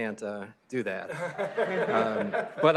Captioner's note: laughter